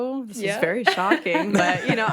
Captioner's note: laughs